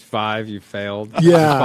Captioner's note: laughs